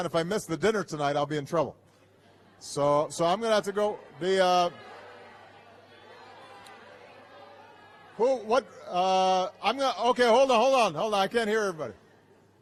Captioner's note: laughter